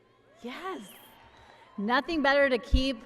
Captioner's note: applause